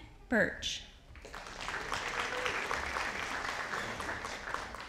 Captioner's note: audience applauding